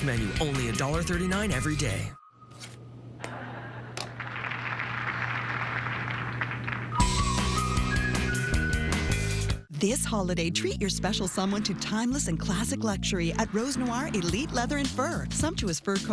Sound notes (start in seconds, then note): 2.6 TV clicks on; 3.2 audience laughter, applause